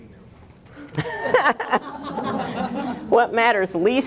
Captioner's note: laughter